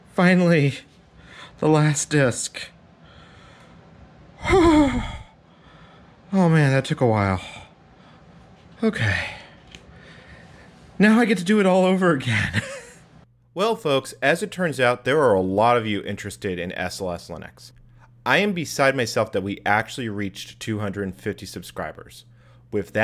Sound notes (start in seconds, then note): 4.4 exhausted sigh; 12.2 laugher